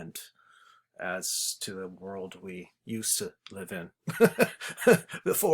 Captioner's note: chuckles